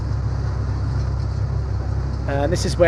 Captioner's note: plane humming